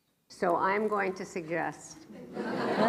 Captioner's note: laughs